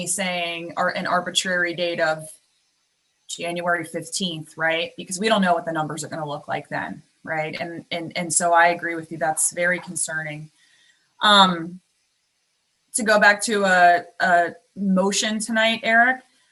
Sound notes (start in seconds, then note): none